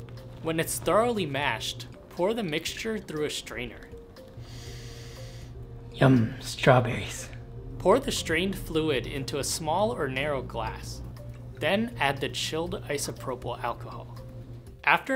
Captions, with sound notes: When it's thoroughly mashed, pour the mixture through a strainer. [sniffs loudly] Yum. Strawberries! Pour the strained fluid into a small or narrow glass. Then, add the chilled isopropyl alcohol. After narrow glass. Then, add the chilled isopropyl alcohol. After